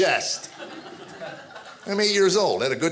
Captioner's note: audience laughing